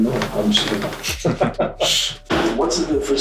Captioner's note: laughs